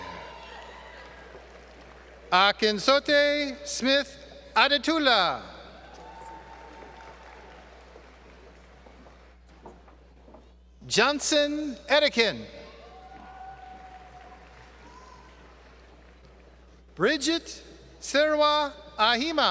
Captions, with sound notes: Akinsote Smith Adetula. [ Applause ] Johnson Adigun. [ Applause ] Bridgette Serwaa Ahima.